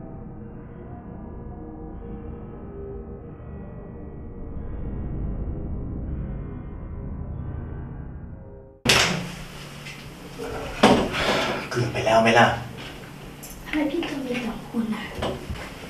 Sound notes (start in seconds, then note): 11.1 sigh